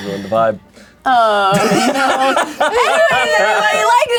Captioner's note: all laughing